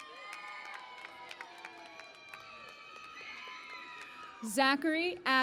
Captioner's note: cheering and Applause